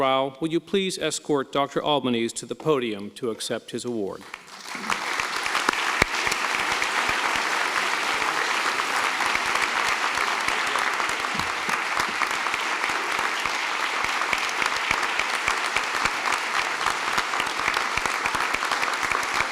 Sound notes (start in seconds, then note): 4.2 applause